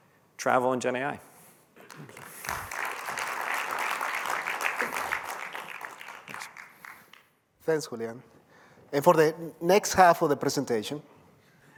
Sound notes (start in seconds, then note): 1.8 applause